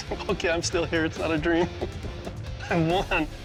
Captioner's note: chuckles